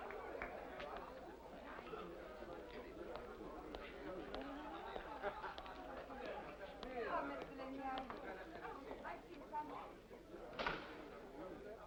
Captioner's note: faint sound of applause & chatter; faint sound of chatter; door opens